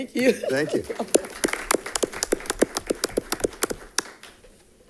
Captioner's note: crowd clapping